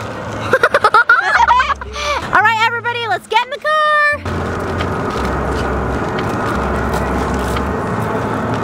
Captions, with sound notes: (giggling) Alright everybody, let's get in the car!